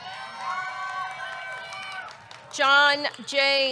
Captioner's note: audience cheering; audience clapping